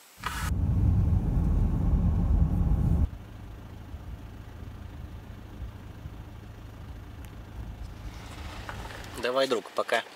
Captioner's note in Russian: звук работающего мотора машины